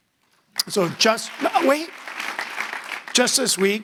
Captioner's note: audience applauding